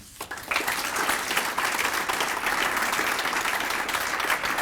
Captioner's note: applause